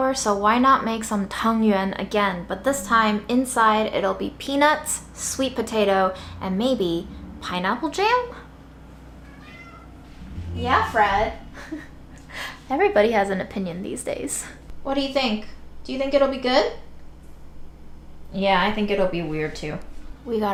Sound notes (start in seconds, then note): 9.2 Fred meows; 11.5 chuckles